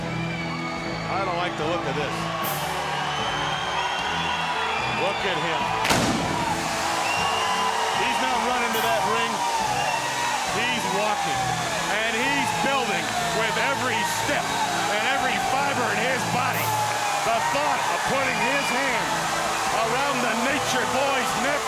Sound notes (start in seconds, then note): 5.8 pyro explodes; 5.8 audience cheering